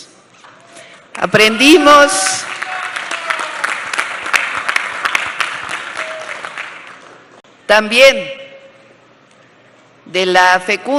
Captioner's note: applause